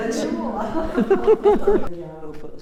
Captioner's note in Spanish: risas